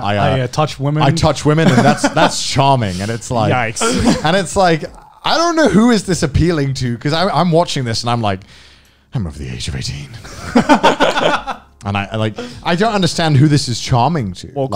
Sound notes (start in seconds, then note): 10.2 men laughing